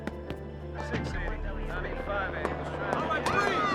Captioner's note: police office muttering